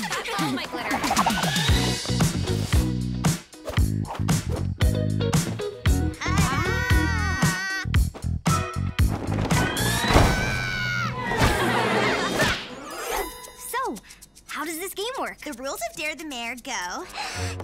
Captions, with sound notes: - Oh my glitter. (rhythmic music) - Ta-da! (screaming) (laughter) - So, how does this game work? - The rules of "Dare the Mare" go…